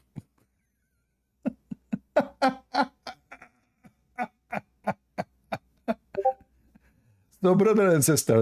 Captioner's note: Ketawa